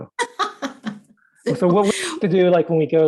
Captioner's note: laughing